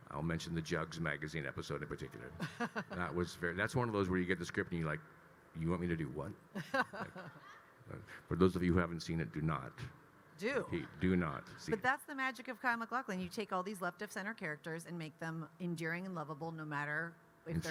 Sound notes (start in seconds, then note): 2.3 laughing; 6.5 laughing